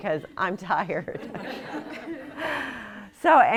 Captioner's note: laughter